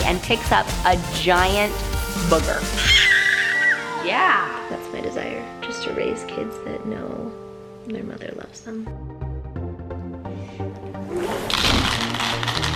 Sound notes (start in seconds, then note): 2.7 baby squeals